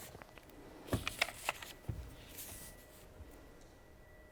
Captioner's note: pages rustling